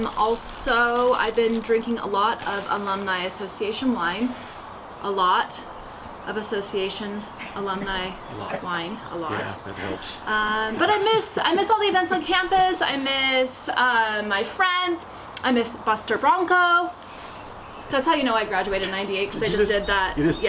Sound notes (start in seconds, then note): 10.4 laughs